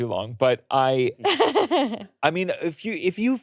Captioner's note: laughing